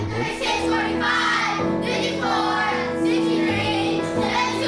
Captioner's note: kids chanting